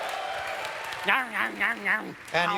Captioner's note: audience cheers; gnawing sounds